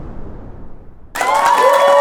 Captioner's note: audience cheering